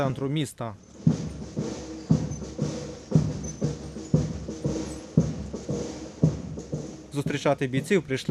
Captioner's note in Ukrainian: марширують